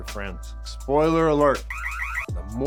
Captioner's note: alarm sounding